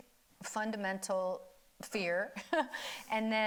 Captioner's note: chuckles